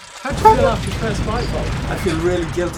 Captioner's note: horn honks; fire roars